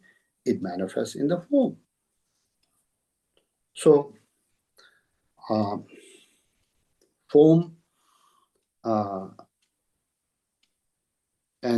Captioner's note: tibetan